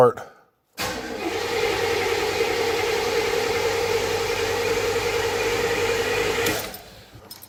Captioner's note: engine cranking